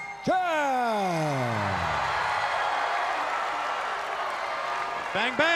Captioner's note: crowd cheering